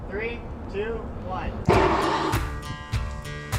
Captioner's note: explode